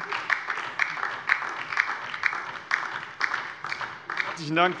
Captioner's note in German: Beifall DIE LINKE